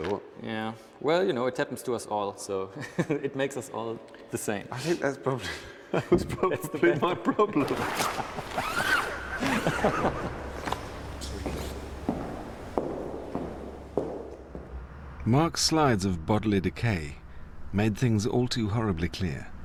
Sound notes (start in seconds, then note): 6.0 Anthony laughs nervously; 7.6 zipper closes; 9.3 laughs